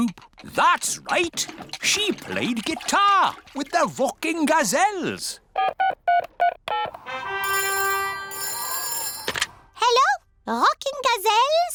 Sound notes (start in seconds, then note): 6.0 dialing; 7.4 phone rings